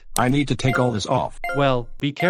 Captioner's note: beeping